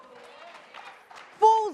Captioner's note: audience cheers